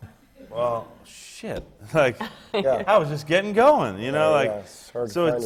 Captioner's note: laughs